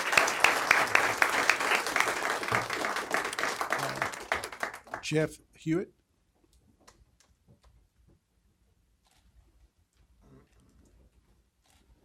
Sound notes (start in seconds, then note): 2.8 applause